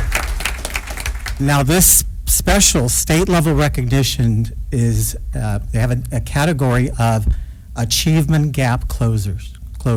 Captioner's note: applause